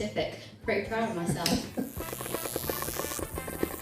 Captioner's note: buzzing